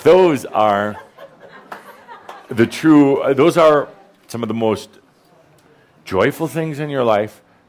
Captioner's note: laughter